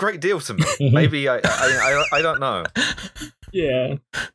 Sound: laughter

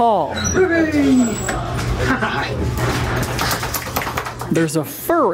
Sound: ears flapping

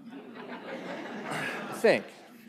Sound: laughter

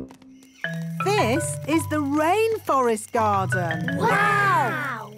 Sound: rainforest sounds

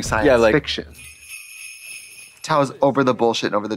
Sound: sleigh bells jingling

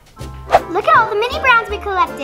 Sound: air whooshes

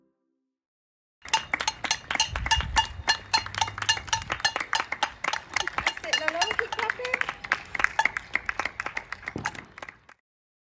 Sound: pot clacks and clapping

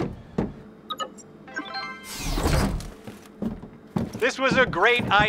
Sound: door chimes and unlocks

